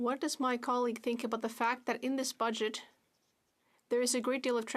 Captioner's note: speaking French